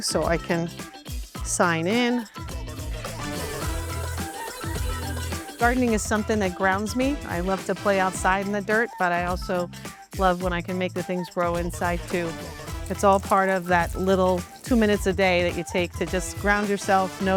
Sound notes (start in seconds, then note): 2.6 upbeat playful music; 3.0 water hissing; 3.5 singer vocalizing